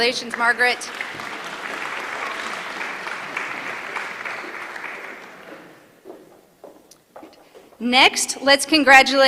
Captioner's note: applause